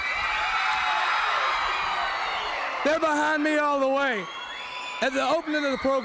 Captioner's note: crowd cheering